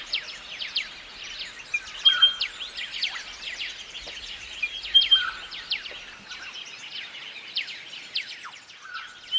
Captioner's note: birds chirps